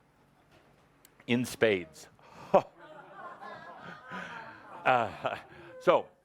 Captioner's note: laughter